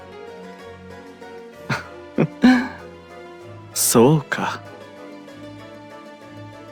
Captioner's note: laugh